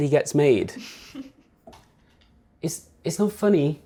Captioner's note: snickers